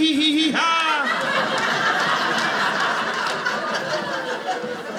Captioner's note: audience laughing